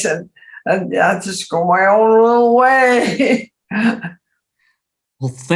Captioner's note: laughs